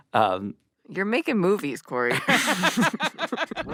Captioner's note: laughs